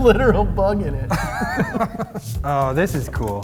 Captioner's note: laughing